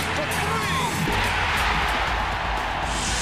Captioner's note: crowd cheers